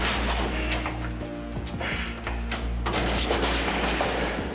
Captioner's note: metallic sound - Jan moaning